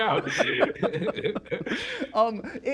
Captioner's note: laughter